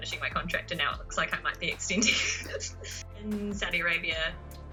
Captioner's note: laughs